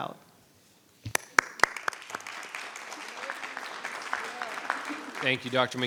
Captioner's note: audience applauding